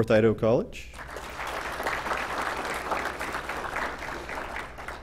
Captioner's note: applause